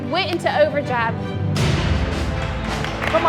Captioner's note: cheering